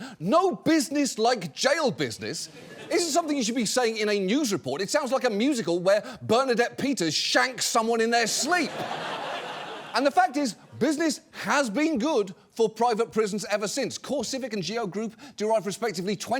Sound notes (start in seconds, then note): 8.2 audience laughs